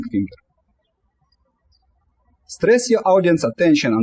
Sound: birds chirping

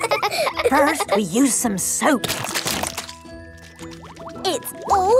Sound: laughing; squirt! squirt!

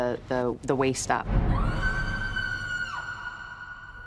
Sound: scream

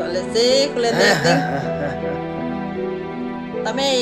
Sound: laughing

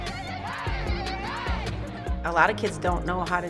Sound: team cheering in unison

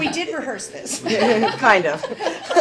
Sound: laughter

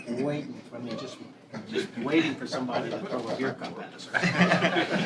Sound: laughter

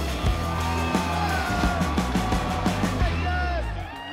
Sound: cheering

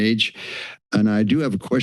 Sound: inhales

